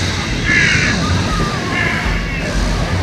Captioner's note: birds screeching